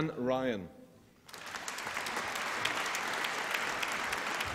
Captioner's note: applause